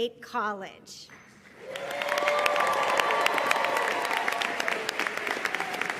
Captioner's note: audience cheering and applauding